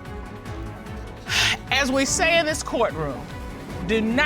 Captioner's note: sighs